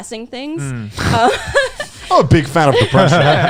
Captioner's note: laughing